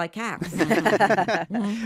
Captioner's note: everyone laughs